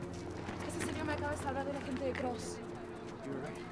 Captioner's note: Allegra speaking in Spanish